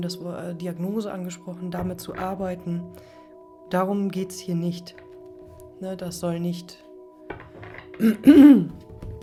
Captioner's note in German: räuspern